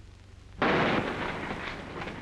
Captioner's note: gunshot